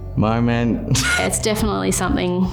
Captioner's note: laughs